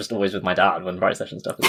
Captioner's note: laughs